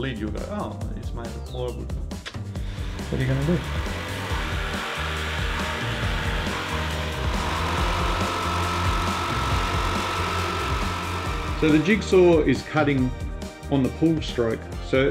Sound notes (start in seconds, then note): 4.8 jigsaw buzzing